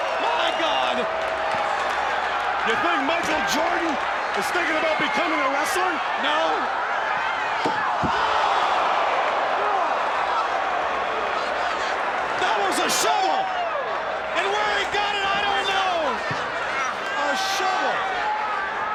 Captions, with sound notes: My God! You think Michael Jordan is thinking about becoming a wrestler? No. (crowd groaning) That was a shovel! And where he got it, I don't know. A shovel.